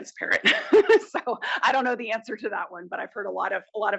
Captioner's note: laugh